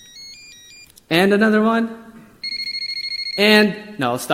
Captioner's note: melodious beeping phone ringing; monotonous beeping phone ringing